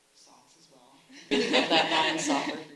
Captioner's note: all laughing